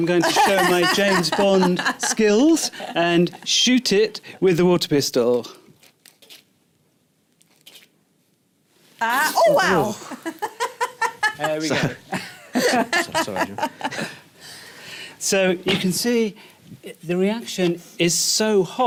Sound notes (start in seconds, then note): 5.7 squirting; 9.4 laughs